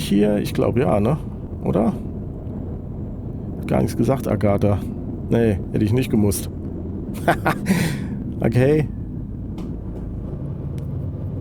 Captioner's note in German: gelächter